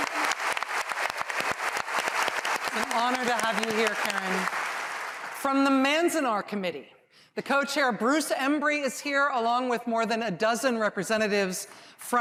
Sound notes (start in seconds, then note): 0.0 applause